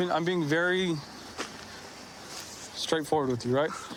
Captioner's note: none